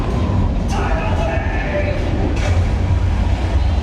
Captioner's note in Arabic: صراخ شخص